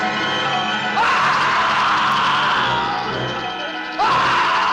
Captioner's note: Charlie screaming